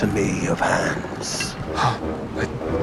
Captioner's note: gasps